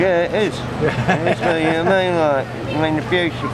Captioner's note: interviewer laughs